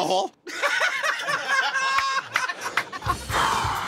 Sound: laughter; sighs

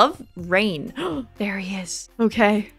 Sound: gasp

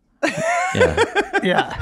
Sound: everyone laughing

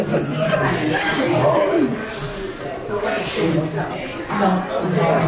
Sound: both laughing; customers converse

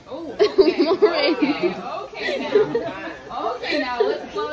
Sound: laughs

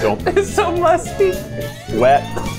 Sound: laughing

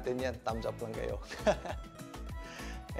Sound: chuckles

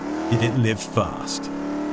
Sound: car speeds off

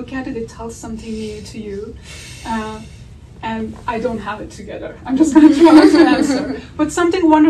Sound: audience laughter

